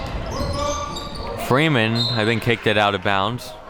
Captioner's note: whistle blows